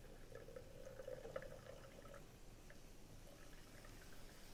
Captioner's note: bacon sizzling